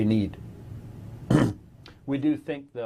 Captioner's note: clears throat